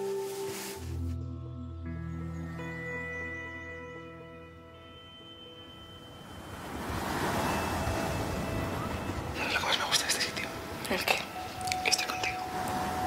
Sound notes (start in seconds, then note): 6.8 sea waves